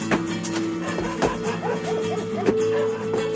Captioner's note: dog barking